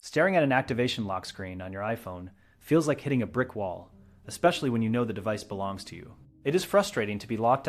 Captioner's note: speak with a tone of empathetic concern